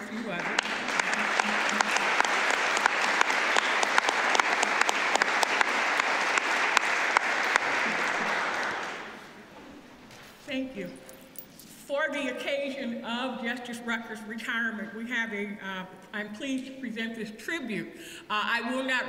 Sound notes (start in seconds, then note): 1.8 applause